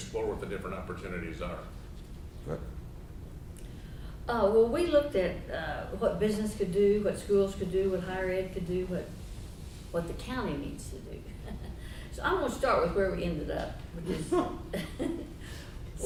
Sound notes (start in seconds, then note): 11.4 chuckles; 14.0 laughing